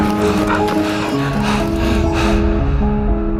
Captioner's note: panting